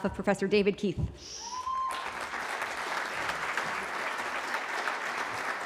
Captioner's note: cheering